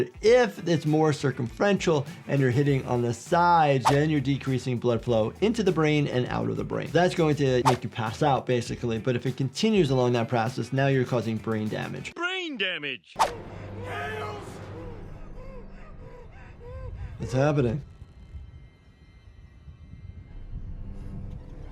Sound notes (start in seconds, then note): 0.0 soft upbeat music plays; 3.8 audio whooshes; 7.6 audio whooshes; 13.2 audio whooshes; 13.8 shouts; 15.2 Grace breathes rapidly